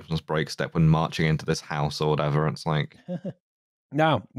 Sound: laughs briefly

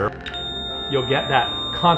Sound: high-pitched tone

